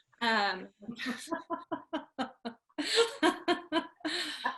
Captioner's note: laughing